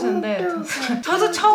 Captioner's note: haha